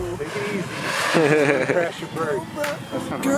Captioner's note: laughing